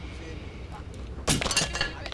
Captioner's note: In Memoriam frame shatters